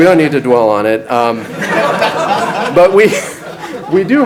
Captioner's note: audience laughs